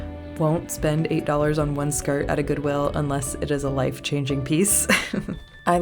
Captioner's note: laugh